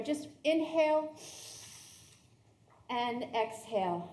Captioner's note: everyone inhaling